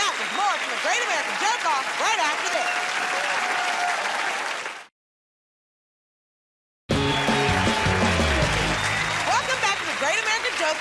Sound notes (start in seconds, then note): 3.9 cheers and applause; 6.9 cheers and applause